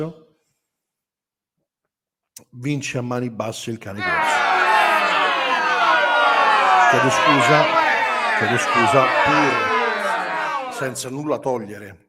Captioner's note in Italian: Applauso